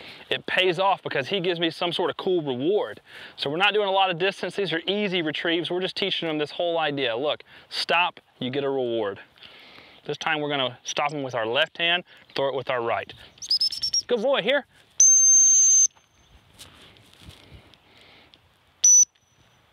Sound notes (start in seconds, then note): 13.4 whsitle; 15.0 whistle; 18.8 whistle